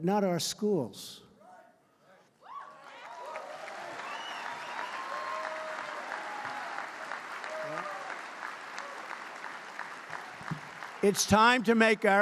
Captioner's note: applause